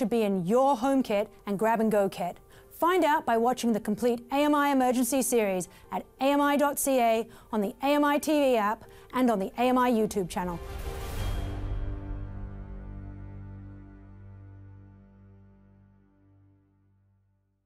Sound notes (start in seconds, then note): 10.6 fast diminishing sound